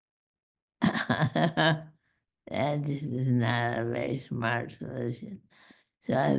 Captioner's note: laughs